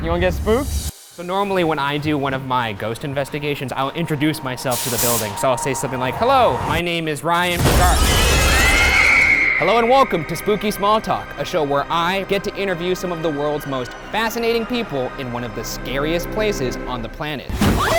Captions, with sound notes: You wanna get spooked? - So normally, when I do one of my ghost investigations, I'll introduce myself to the building. So I'll say something like hello, my name is Ryan Bergara. (glass shattering) (woman screeching) Hello and welcome to "Spooky Small Talk", a show where I get to interview some of the world's most fascinating people in one of the scariest places on the planet.